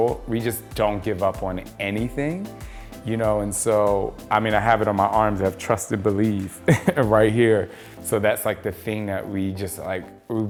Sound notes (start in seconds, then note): 7.5 laughs